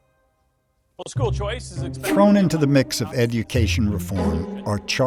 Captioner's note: voiceover